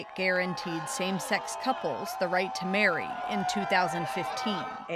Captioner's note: crowd cheering